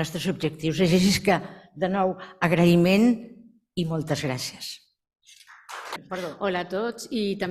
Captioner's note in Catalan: Aplaudiments